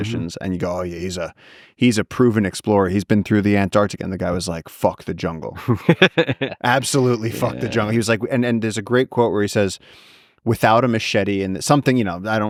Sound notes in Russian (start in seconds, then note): 5.6 Лекс смеётся